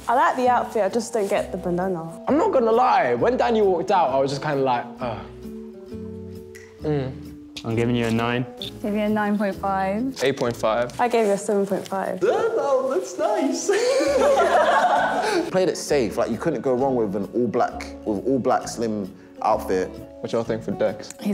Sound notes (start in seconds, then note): 6.6 snapping; 13.6 laughs